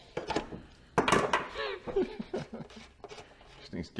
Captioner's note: laughing